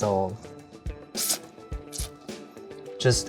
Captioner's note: slurping